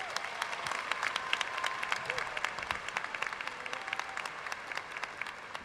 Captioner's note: audience cheering and applauding